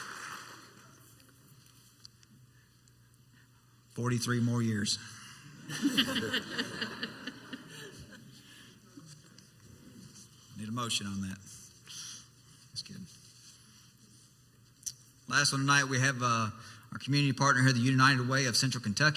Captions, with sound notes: (Applauding quietly stops) 43 more years. (Committee members and audience laughing) Need a motion on that? Just kidding. Last one tonight we have our community partner here.